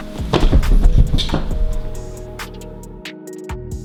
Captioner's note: thudding